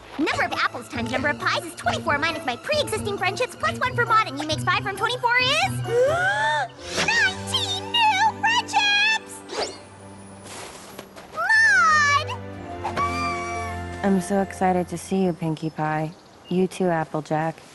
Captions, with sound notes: Number of Apples times number of Pies is 24 minus my pre-existing friendships plus 1 for Maud and you makes 5 from 24 is-- [big breath] Nineteen new friendships! Maud! I'm so excited to see you, Pinkie Pie. You too, Applejack.